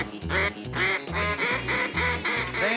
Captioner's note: duck calls